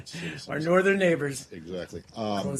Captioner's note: laughter